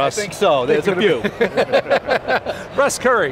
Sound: laughing

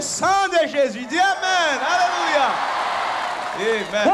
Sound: crowd cheering boisterously

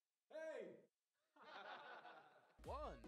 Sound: laugh track 3

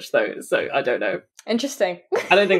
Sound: laughing

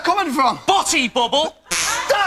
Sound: farts a third time

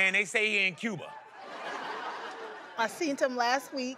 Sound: audience laughing

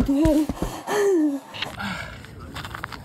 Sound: gasps

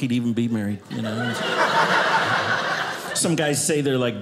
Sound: audience laughing

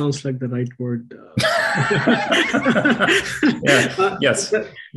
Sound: laughter

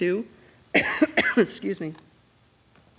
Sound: coughs

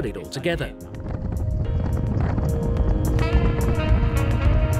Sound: wind rushing past

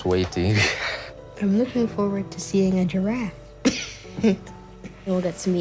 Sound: chuckles

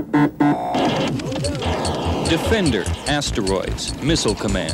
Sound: digital beeps

